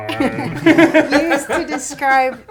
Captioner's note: laughs